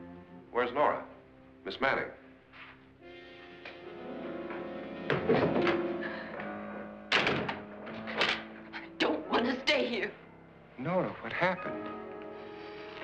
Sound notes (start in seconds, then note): 0.0 ominous music; 3.0 ominous music; 7.0 door closes